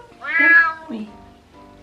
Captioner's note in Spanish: maullido